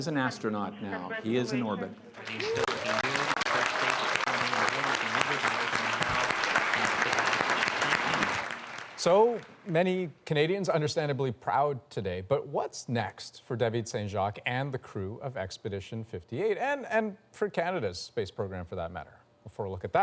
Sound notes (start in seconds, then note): 3.9 applause